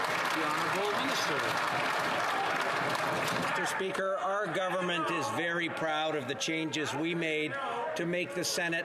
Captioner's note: some Applause